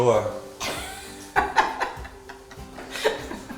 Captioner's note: laughter